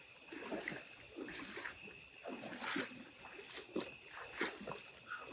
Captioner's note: splashing through water